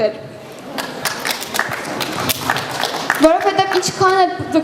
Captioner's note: applause